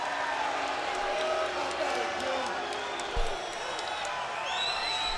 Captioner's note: crowd cheering